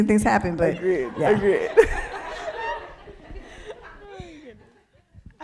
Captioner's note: people laughing